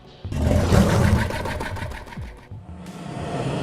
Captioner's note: monster growling